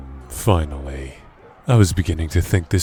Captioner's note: battle ambience